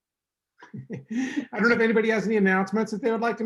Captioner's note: chuckles